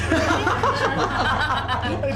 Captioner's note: laughter